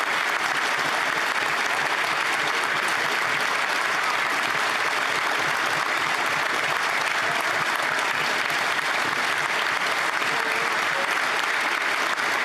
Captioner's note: applause